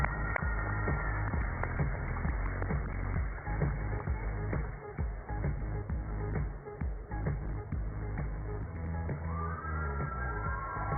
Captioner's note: cheers and applause